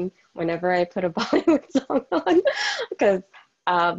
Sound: laughing

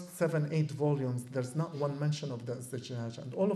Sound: non-english

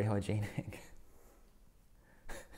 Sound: laughs

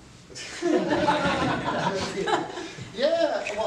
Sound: laughter

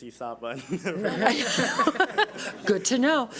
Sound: audience laughs

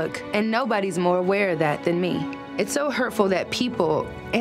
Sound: none

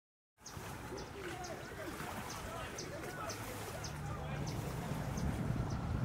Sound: birds chirping; people chatting

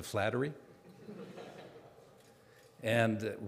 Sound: audience laughing

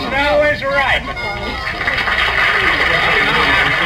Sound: audience applauds

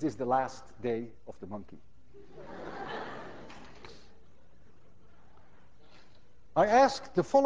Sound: class laughs

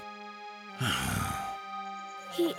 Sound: chuckling; sighing

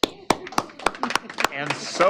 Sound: applause

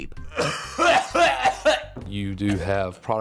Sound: coughing

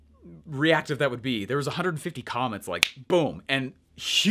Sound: fingers snapping

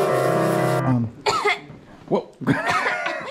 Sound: coughing

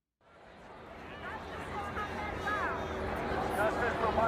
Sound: crowd

